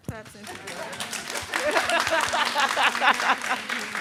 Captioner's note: audience claps